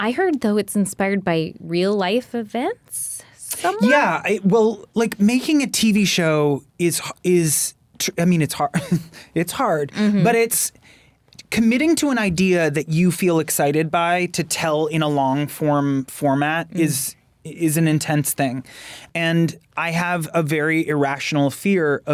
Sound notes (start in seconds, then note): 8.6 laughs